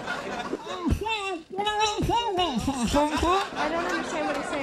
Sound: Andy mumbling

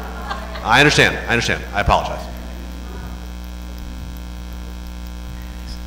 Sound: laughter

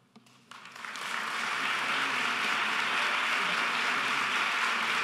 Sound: audience applauding

